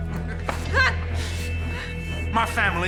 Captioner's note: Alexa grunting